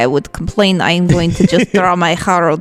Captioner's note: laughs